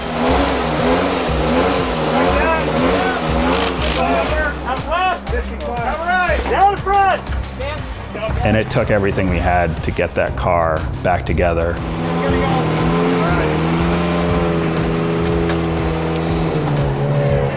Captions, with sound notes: (car engine revving) - I'm done. - Down on the front. - And it took everything we had to get that car back together. (car engine revving)